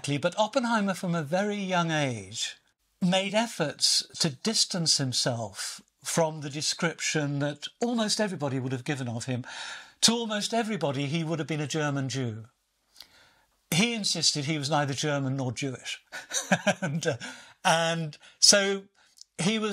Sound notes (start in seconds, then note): 16.0 laughs